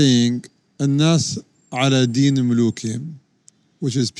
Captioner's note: speaks in Arabic